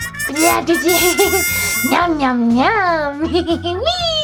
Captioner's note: giggles; giggles